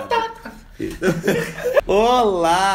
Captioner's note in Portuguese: risadas